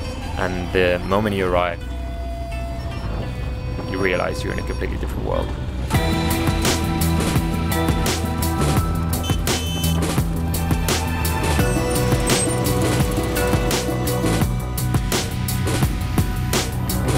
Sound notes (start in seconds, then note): 9.0 motorcycle horn